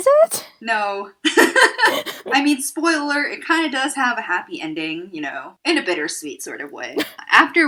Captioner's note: laughter